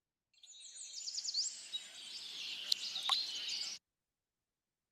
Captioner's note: birds chirping